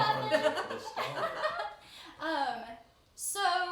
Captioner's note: all chuckle